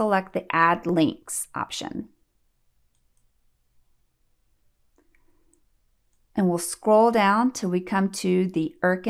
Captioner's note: click